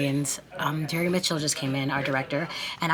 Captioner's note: passersby chattering